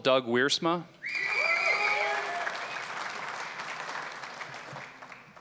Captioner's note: cheering, applause; applause